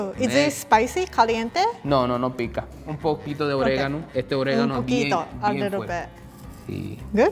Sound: speaking in foreign language

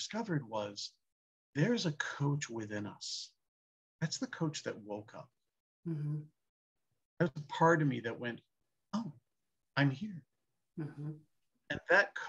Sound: mhm

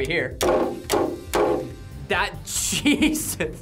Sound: nail thuds; hammer slamming

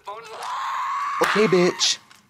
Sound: Amy bitterly screams

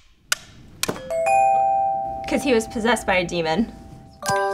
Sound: upbeat music; clock ticking; bell dinging

